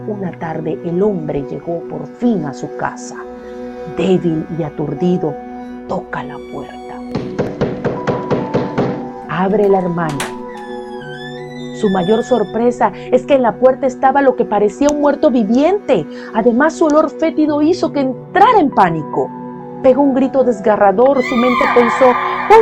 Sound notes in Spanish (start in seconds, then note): 7.2 golpeando puerta